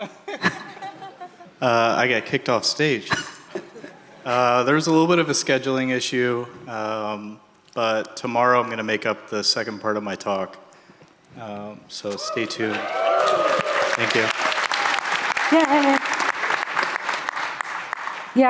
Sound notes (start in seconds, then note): 12.0 audience cheering; 14.8 audience applauding